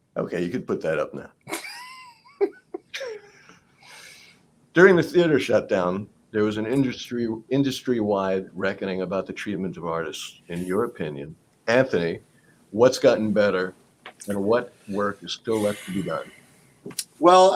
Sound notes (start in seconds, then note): 1.4 laughs